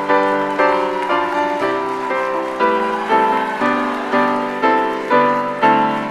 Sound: audience cheers and applauds

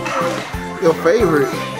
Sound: murmurs

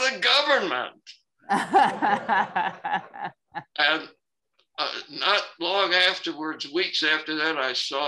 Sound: laughter

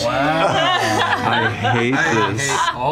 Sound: laughter

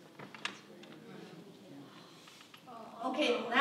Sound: crowd chatting

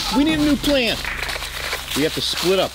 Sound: static crackles

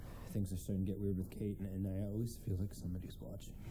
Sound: none

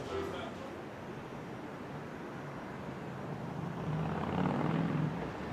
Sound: engine puttering

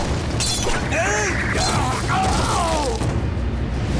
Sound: groaning

